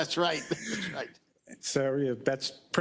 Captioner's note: laugh